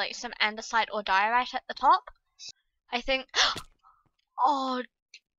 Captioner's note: gasp